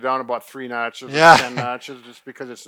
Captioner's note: laughs